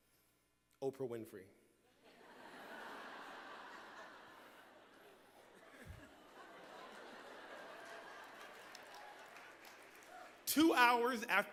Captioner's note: laughter